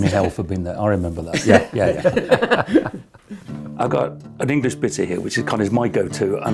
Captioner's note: both laugh